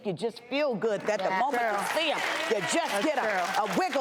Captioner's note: crowd claps